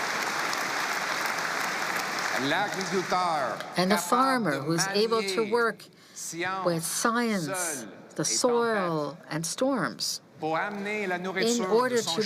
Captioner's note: cheering